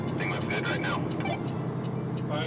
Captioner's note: man On Radio